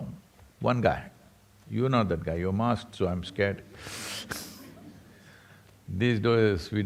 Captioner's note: laughs